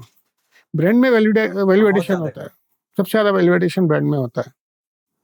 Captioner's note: speaking in Hindi